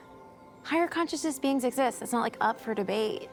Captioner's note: none